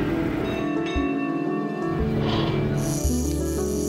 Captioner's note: bell ringing